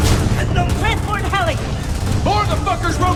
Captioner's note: guns blasting; soldiers yelling